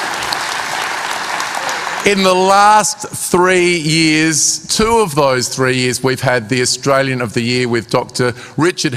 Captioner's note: cheering and applause